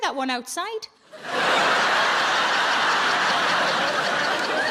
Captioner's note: audience laughing